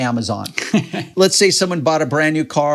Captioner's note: chuckles